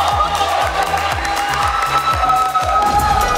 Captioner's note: clapping